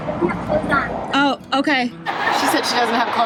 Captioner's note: talking behind the door